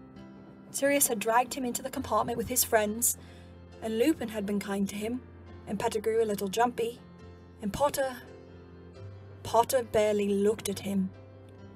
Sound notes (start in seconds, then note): none